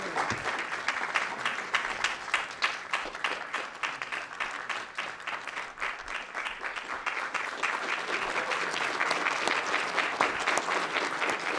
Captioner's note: applause